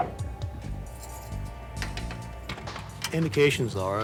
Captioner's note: sound of keys jingling